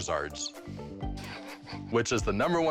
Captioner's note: chuckles